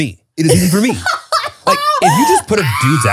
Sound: laughs

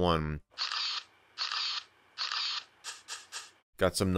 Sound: camera shutter sounds

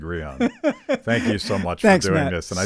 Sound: laughing

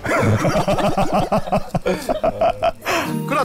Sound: euhahaha

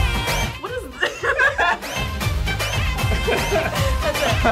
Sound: both laugh

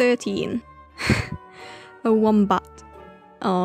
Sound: laughs

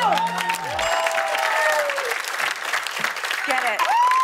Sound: ding!

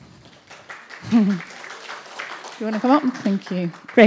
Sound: audience clapping

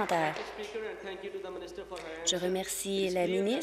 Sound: applause

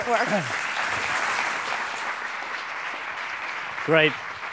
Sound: applause

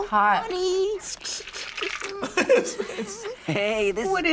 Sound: laughs

